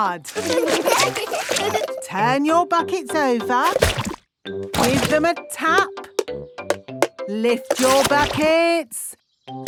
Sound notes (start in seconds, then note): 0.3 laughing; 6.3 taping